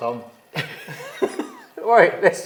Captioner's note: both laughing